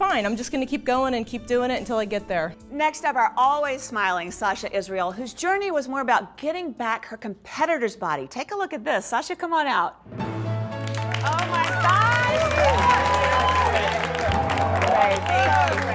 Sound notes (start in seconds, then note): 10.8 cheers and applause